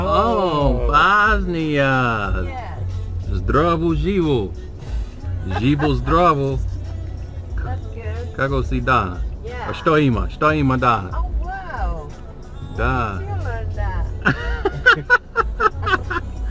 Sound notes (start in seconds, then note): 5.4 bulgarian